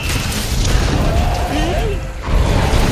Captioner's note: charge blade launch